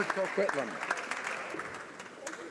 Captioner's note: applause